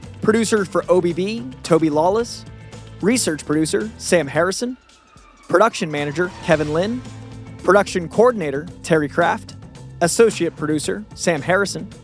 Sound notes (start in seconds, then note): none